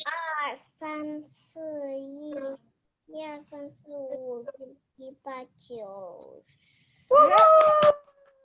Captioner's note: child A counting in Mandarin